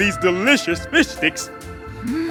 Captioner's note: sniff